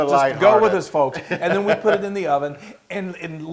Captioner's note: laugh